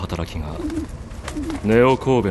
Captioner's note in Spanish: arrullo de palóma